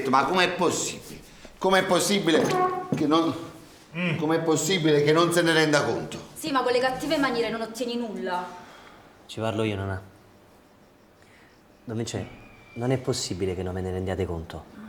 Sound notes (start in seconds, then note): 8.4 Omero sighs